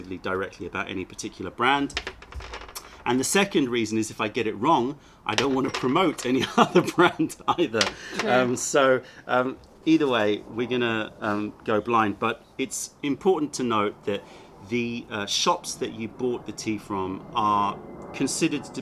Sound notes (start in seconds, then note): 6.4 laughter